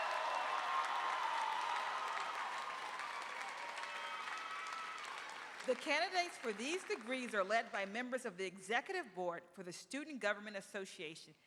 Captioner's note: cheers and applause